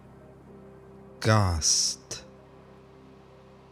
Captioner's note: german